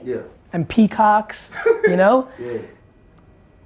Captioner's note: laughs